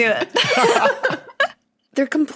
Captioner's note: group laughing